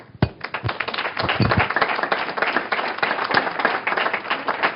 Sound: applause

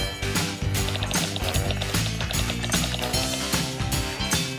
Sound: keyboard typing

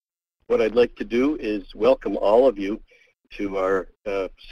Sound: voiceover

